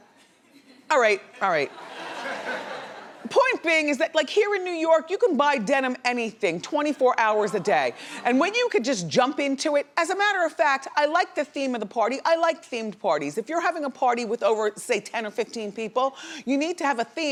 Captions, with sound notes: All right, all right. (laughs) Point being is that like here in New York, you can buy denim anything 24 hours a day. And when you can just jump into it, as a matter of fact, I like the theme of the party. I like themed parties. If you're having a party with over say 10 or 15 people, you need to have a theme